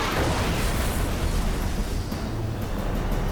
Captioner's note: explosion